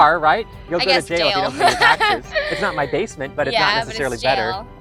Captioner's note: laugh